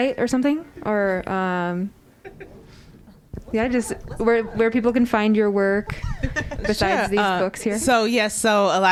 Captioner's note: laughter